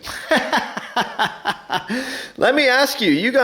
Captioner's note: laughs